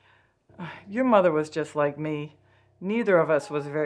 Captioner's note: sighs